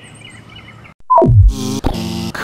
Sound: beep; buzz; pounding footsteps

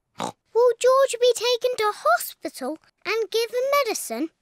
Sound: oinks

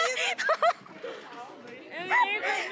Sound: laughs

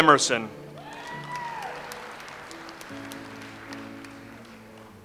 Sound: audience applauds

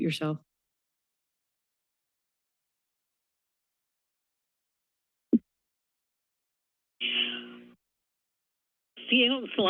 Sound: silence

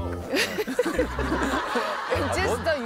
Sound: chuckling

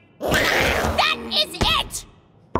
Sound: raccoons growling

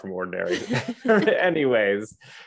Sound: both chuckles

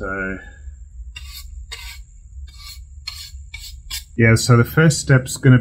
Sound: brush scratching

